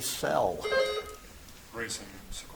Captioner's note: buzzer chimes